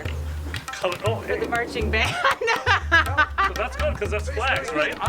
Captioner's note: laughs